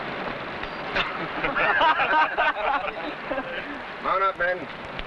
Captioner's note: men laughing